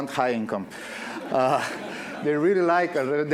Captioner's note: audience laughing